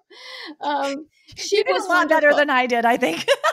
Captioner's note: laughter